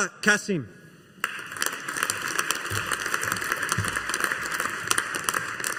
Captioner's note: audience applauding